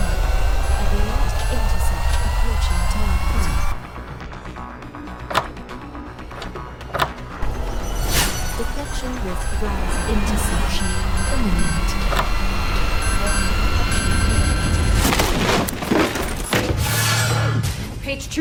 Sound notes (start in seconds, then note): 5.1 locks clicking; 15.0 door slams